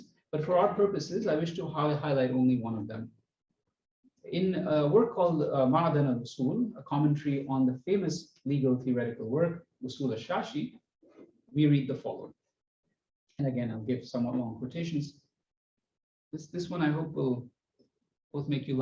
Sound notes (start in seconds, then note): 5.4 non-english